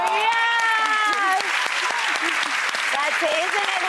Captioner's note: applause